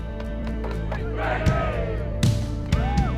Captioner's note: cheering